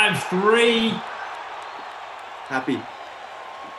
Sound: cheering

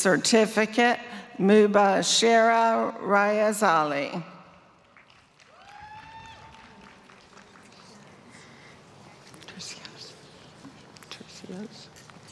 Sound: applause

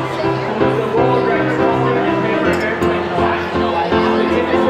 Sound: muffled chatter

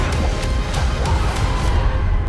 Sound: screaming

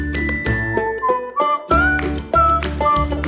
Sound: whistling

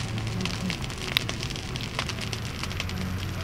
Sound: fire crackles

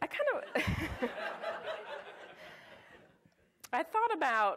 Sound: audience laughs

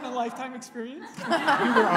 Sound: laughing

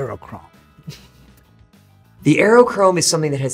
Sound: laughs

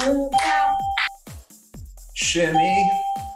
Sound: ding; ding

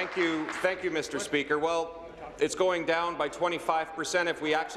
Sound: applause

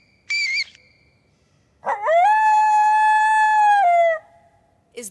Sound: squeaking; howling

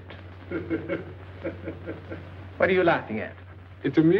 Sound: laughing

